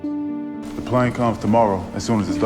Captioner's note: voiceover